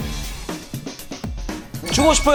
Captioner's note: coolly